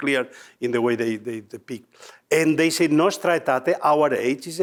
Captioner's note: speaking foreign language